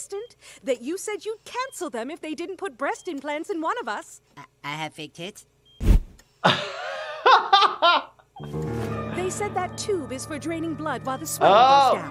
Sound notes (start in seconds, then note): 6.4 chuckling